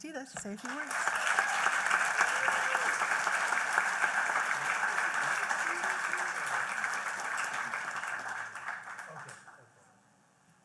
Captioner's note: applause